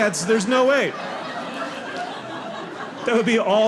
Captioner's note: audience laughing